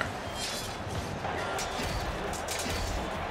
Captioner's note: blades clanking